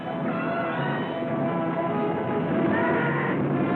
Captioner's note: shouting